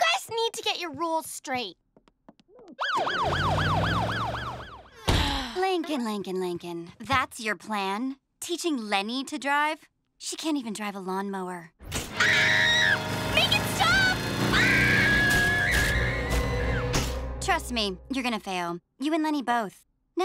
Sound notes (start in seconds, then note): 2.7 siren wailing; 5.0 sighs; 14.4 screams